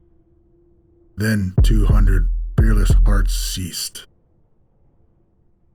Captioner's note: heart throbbing; silence